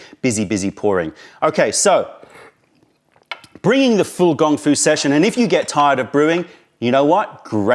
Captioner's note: sips tea